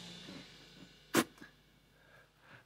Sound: spit

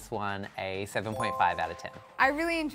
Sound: chime

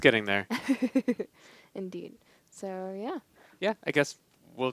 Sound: laughing

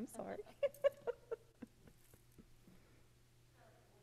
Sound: laughing

